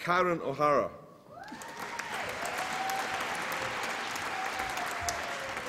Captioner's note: applause and cheering